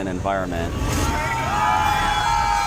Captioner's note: audience screaming